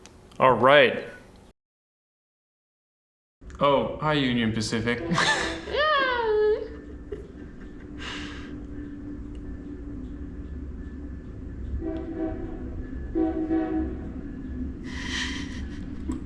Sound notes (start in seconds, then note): 4.7 train horn honks; 8.2 sound of train bell dinging and train rolling on track; 11.5 toot toot! Toot toot!